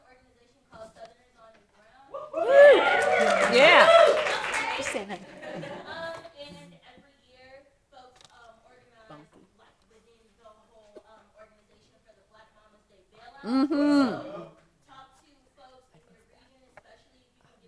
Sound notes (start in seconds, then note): 2.1 cheering and applauding